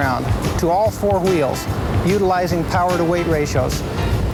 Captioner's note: voiceover